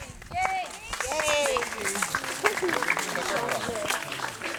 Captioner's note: applause